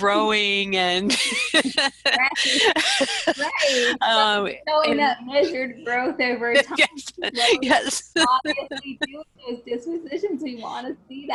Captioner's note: laughs; laughter